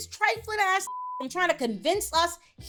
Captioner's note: beep